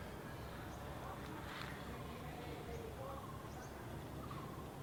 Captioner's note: insects chirping